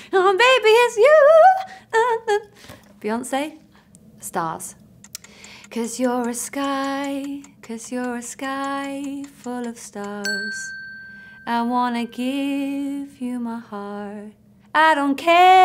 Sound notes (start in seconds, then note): 5.0 clock ticking; 10.2 bell dinging